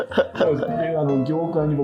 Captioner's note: laughing